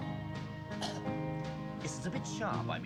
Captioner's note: coughs